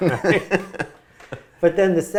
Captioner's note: laughs